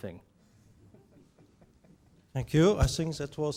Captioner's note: man chuckles